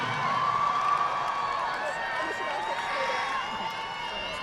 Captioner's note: audience clapping